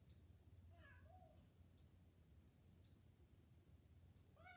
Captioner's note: cat meowing